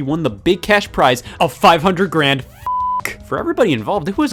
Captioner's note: beep